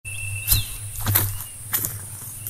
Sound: footsteps

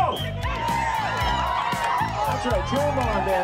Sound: cheers and applause

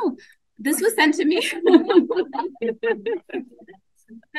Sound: laughs

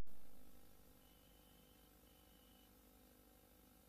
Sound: VHS static

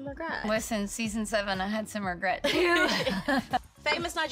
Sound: laughs

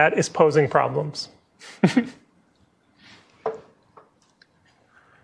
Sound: chuckles

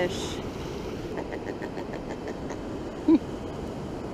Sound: pigfish noises, laughs

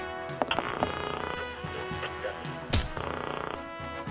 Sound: static; theme music playing

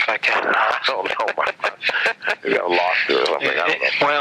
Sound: both laugh

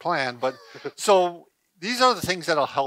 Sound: laughs

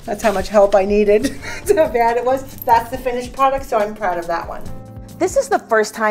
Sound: laughs

